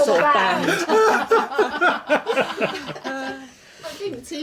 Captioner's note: laughing